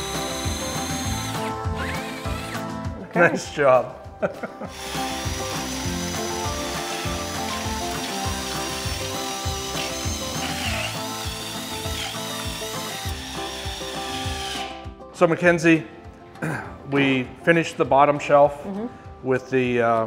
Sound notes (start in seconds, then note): 0.0 drill whirring; 0.1 upbeat music; 4.2 laughing; 4.7 drill whirring; 6.0 upbeat music